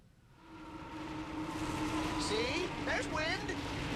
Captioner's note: wind blowing